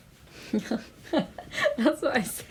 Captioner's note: Tamil laughing